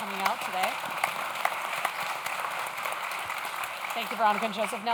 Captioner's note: audience claps